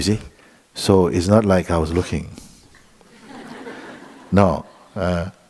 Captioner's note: laughter